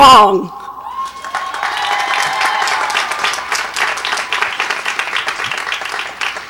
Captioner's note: audience cheers and applauds